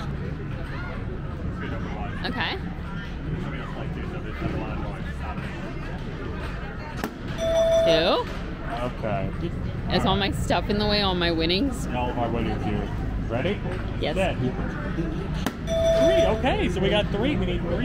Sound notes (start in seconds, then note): 3.7 faintly speaking